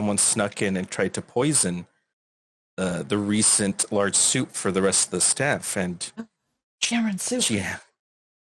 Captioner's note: gasp